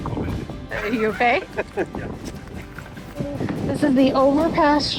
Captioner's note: laughs